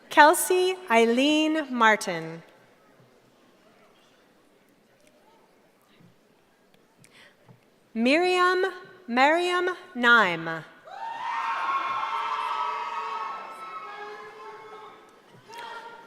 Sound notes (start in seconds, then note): 10.8 cheering